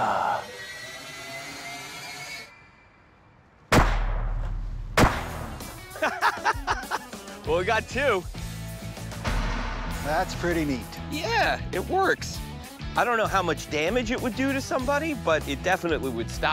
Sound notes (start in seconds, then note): 3.7 gunshots; 5.8 laughing